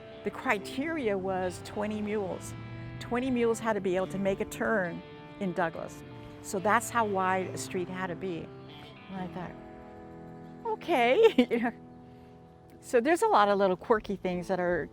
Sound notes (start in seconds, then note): 11.0 laughs